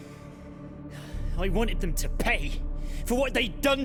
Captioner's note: sigh